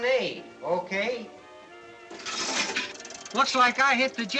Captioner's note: coins Jangling